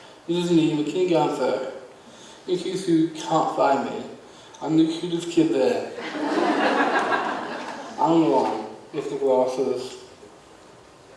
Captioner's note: audience laughs